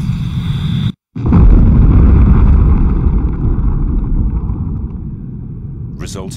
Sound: explosion

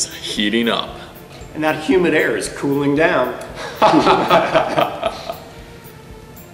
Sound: laughing

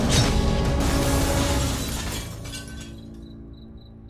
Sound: dramatic music; glass crashes

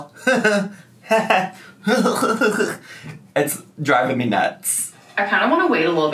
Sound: laughing

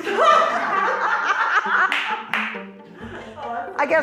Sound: laughter

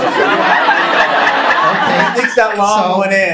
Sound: audience laughing

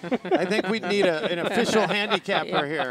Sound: announcers laugh

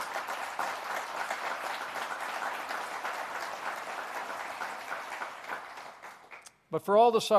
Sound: applause

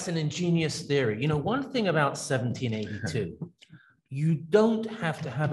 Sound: laughs

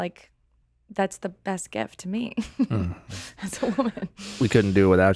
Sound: laughing

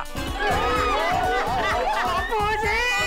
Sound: cheering

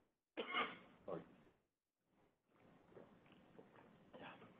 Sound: coughing

